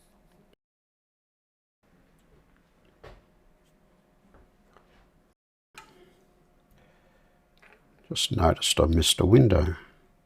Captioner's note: silence